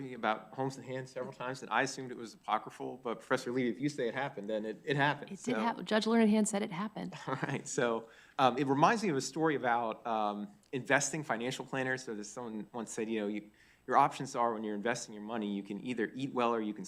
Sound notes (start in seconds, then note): 7.2 chuckling